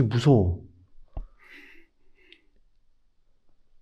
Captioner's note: breathing